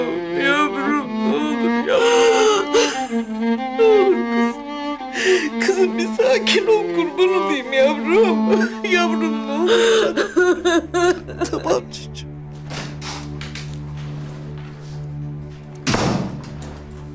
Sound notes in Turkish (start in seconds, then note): 10.3 Ağlama sesi; 15.4 Kapı kapanma sesi